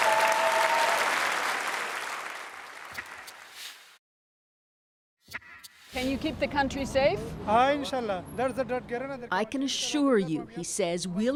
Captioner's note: applause